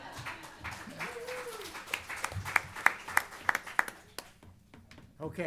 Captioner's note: laughter; applause